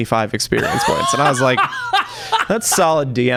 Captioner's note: laughter